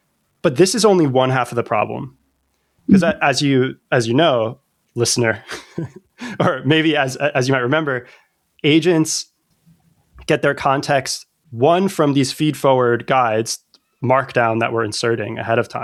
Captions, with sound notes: But this is only one half of the problem. Mm-hmm. Cuz as you as you know, listener [laughter] or maybe as as you might remember, agents get their context one from these feedforward guides, markdown that we're inserting ahead of time,